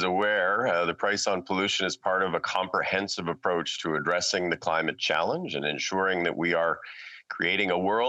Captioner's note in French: voix de l'interprète